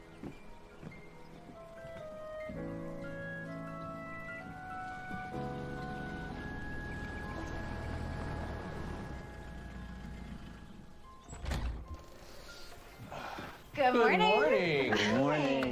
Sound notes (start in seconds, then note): 0.2 instrumental music; 9.6 engine turns off; 11.2 door opens